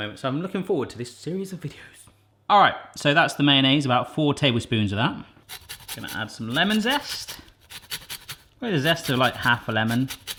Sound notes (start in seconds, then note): 8.8 metallic scraping